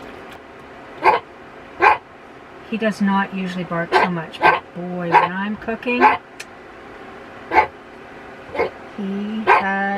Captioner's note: bark